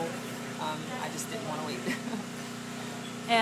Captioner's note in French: Rires